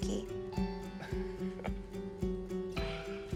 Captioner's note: he chuckles